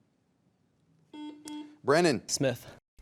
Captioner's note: buzzer dings